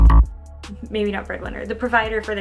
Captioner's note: error sound